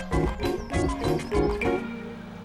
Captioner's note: timer dings